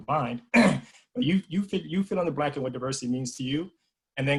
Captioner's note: cough